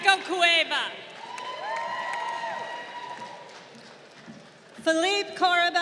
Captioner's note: crowd cheering